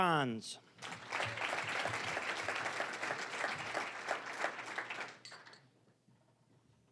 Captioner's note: applause